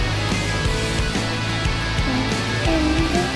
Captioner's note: humming along